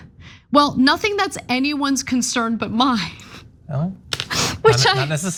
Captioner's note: laugh